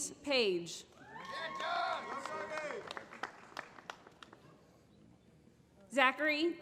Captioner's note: applause